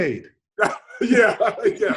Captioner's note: laughs